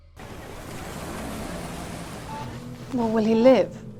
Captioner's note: motor humming